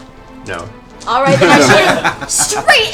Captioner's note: laughter